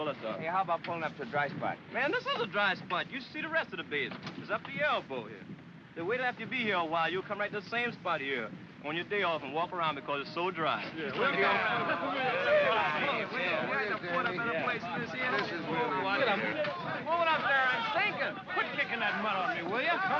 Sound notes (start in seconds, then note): 9.7 men chatter and grumble